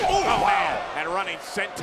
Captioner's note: commentators exclaim